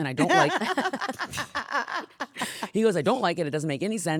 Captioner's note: laughing